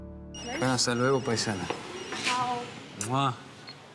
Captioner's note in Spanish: Suena el celular